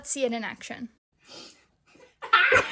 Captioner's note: laughing